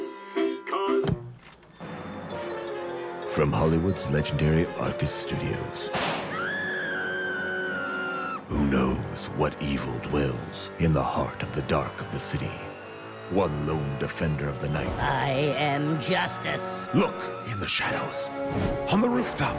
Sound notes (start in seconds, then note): 0.0 movie projector whirs; 5.9 gunshot, scream